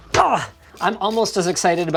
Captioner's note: grunting